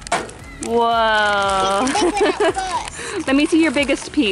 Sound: laughs

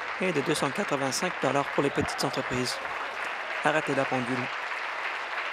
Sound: applause

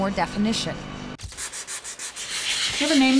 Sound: sanding, smoothing

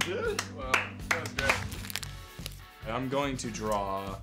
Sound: clapping

